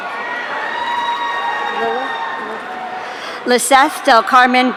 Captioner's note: audience cheering